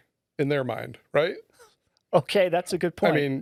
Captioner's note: laughing